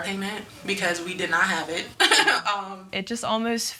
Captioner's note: laughing